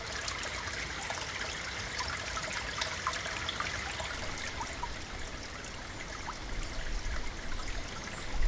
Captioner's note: water sounds